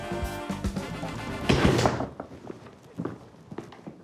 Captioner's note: crash!